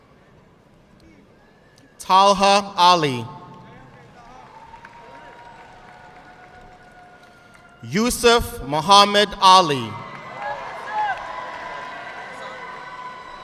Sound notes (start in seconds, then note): 3.4 audience clapping; 9.7 audience clapping